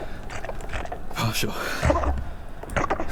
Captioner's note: panting